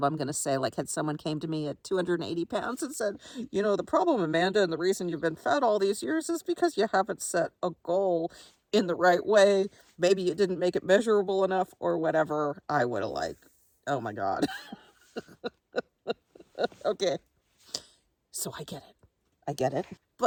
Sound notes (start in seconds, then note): 14.4 chuckles